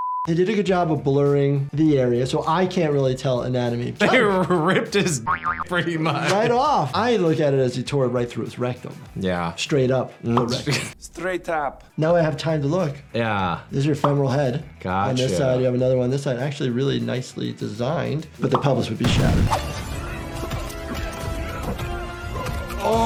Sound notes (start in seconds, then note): 5.2 graphic boings; 19.0 dramatic music